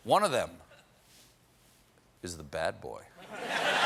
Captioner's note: laughter